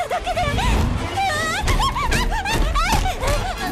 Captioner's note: shouting, groaning